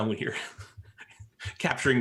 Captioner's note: laughs